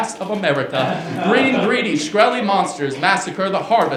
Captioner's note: laughter